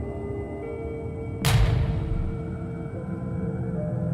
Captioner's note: gunshot